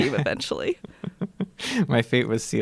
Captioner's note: laughter